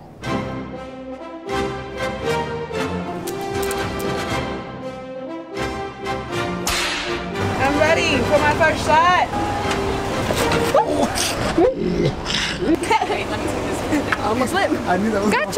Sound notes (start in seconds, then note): 10.6 laughing